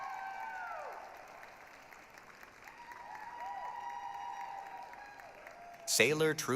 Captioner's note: applause, cheering